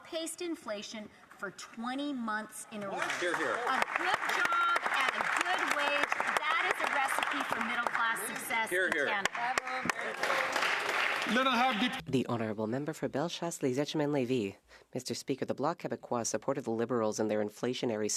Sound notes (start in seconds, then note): 6.2 some Applause